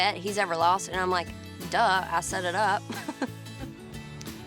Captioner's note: laughs